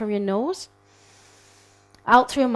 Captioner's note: people inhaling